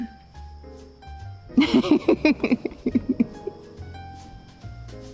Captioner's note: laughing